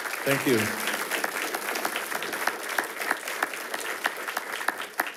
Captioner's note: attendees applauding